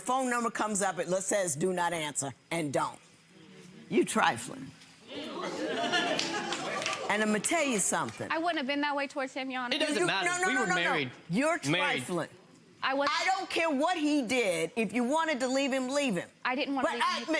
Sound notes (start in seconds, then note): 5.1 audience oohing